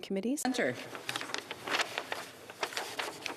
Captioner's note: speaking French